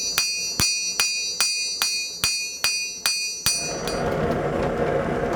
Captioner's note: bell